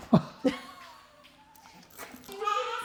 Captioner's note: laughing